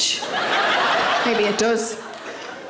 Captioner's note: audience laughing